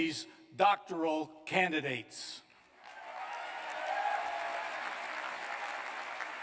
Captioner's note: cheers and applause